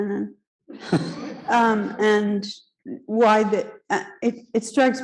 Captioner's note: audience laughing